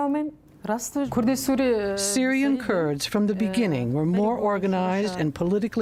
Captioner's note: through translator